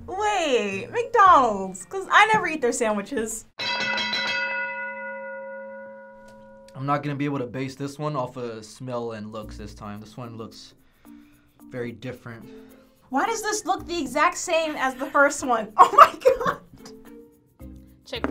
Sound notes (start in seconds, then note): 3.6 bell rings